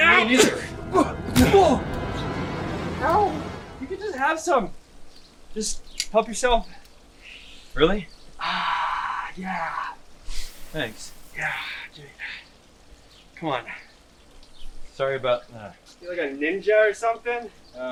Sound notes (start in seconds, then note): 1.3 punch striking